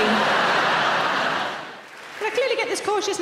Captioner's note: audience laughing